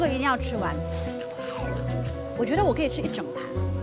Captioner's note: eating non-stop